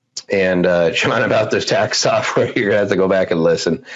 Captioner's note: laughs